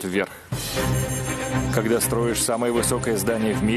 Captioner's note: voiceover